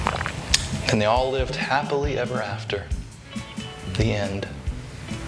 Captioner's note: slurp